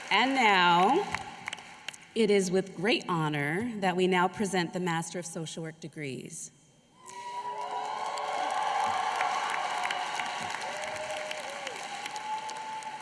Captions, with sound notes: AND NOW, IT IS WITH GREAT HONOR THAT WE NOW PRESENT THE MASTERS OF SOCIAL WORK DEGREES. [APPLAUSE]